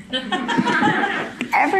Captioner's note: audience laughing